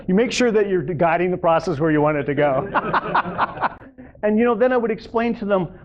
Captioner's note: laughter